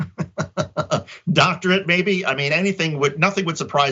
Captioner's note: laugh